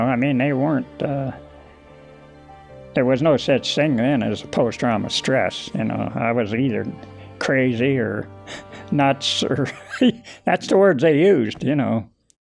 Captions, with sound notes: You know, I mean, they weren't, there was no such thing then as post trauma stress. I was either crazy or nuts (chuckles). That's the words they used, you know.